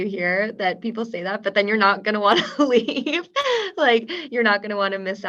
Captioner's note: laughs